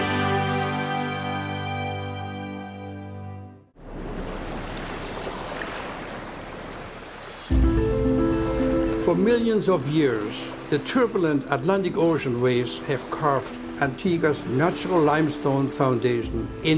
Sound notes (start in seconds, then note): 4.0 waves crashing; 7.4 dramatic music